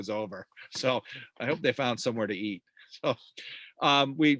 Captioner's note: chuckles